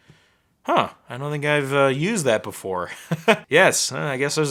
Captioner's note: chuckling